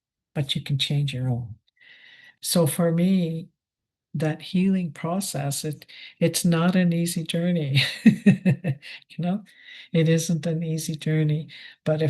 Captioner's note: laughs